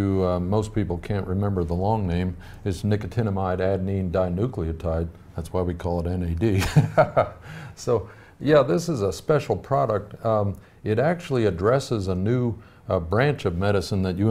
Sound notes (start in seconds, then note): 6.6 laughs